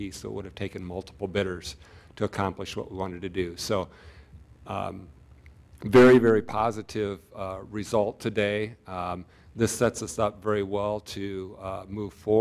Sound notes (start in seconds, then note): none